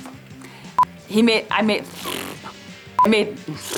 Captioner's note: blows lips